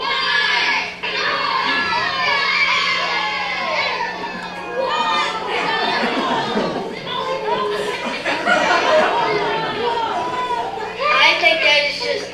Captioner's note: cheering